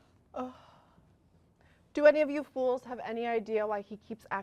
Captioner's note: sighs